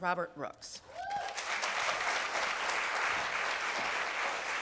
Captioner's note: applause